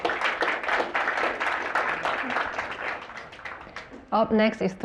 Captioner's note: applause